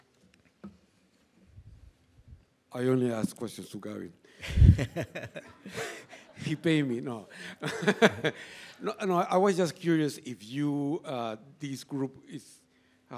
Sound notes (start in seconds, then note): 4.5 laughs